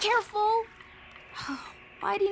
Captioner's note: scoffs